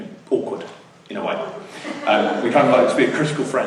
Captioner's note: laughter